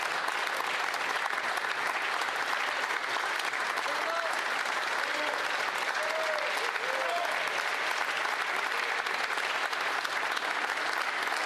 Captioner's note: applause